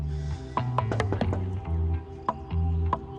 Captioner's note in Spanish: Toques en la puerta